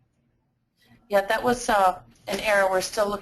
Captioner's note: voiceover